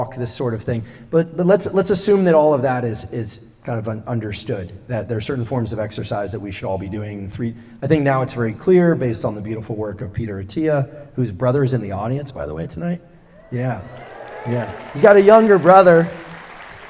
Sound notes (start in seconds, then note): 13.3 cheers